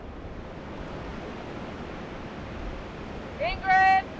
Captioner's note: wind humming